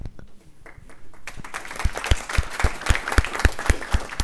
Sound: audience applauds

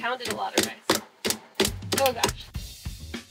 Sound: pounding

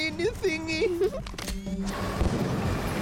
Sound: Sema giggles

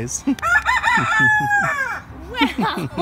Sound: laughs; rooster crows

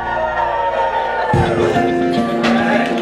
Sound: cheering

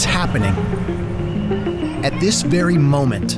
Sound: whistle blows

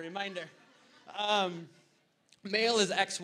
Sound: audience laughter

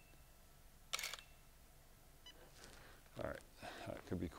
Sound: camera shutter clicks

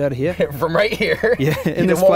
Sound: laughs

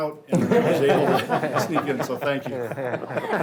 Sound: all laugh

